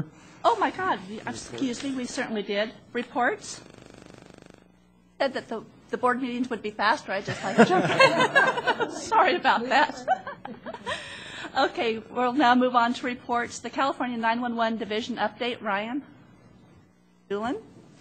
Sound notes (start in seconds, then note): 7.2 laughter